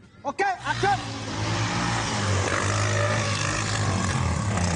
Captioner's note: ATV rumbling